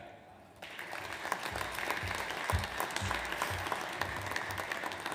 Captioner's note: audience applauds